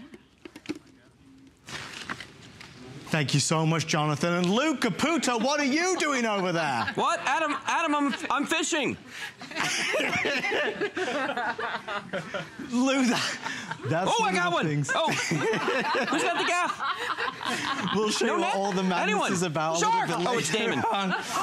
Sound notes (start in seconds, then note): 11.9 laughter